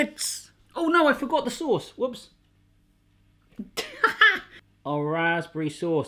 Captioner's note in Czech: smích